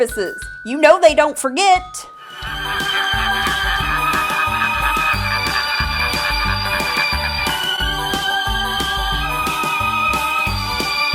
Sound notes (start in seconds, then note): 1.6 creepy laughter